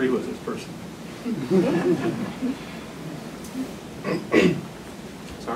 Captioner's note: laughter